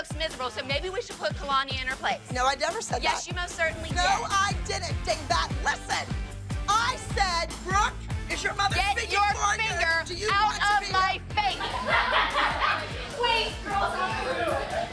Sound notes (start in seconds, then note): 11.4 all laugh